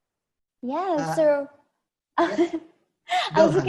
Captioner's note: laughs